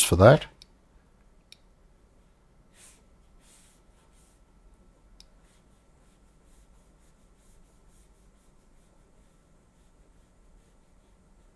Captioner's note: silence